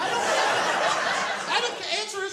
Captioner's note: laughter